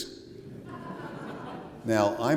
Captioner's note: laughter